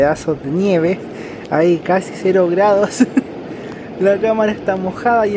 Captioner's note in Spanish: risas